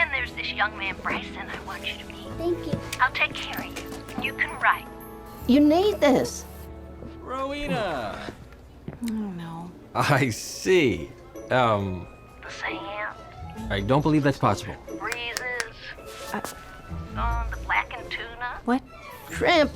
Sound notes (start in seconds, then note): 15.0 snaps fingers